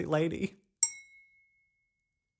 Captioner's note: clink